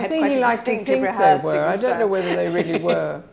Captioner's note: laughs